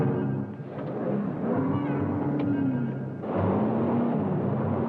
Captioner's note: dramatic music; engine revving